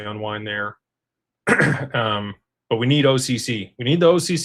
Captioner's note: clears throat